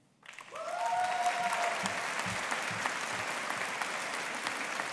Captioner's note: audience applauding